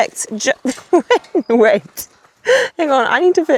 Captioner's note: chuckles